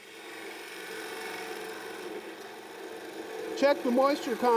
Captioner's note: wood rasping